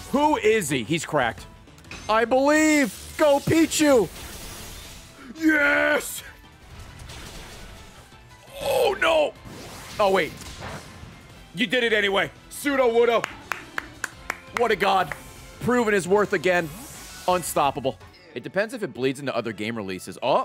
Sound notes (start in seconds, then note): 13.2 claps